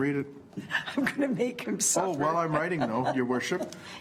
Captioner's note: chuckles